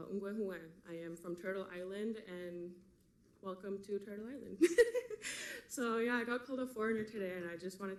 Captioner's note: laughs